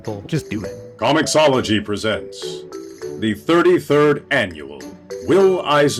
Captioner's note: deep voice